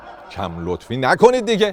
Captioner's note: laughter